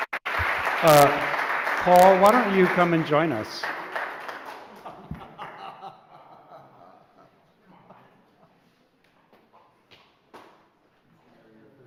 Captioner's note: applause